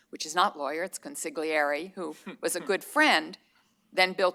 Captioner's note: laughter